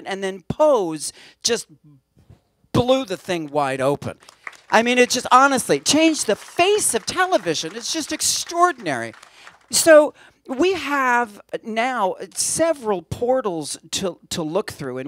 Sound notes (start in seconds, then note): 4.0 applause